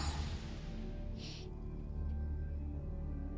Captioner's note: sighs